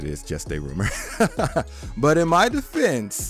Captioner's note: laughs